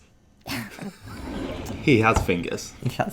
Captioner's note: laughing